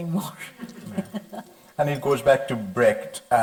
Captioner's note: light chuckling